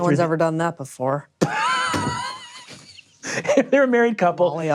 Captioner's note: laughing